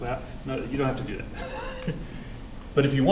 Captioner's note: laughs